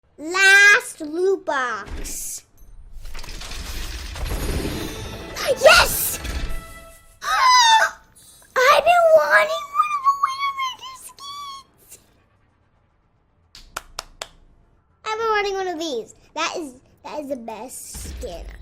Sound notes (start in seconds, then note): 7.1 tire Screech; 13.5 clapping